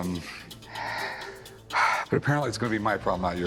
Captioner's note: sighs